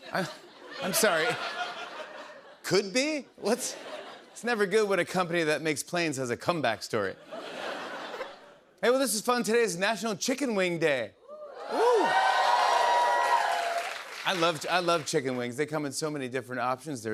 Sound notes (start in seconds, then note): 7.2 laughter; 11.3 cheers and applause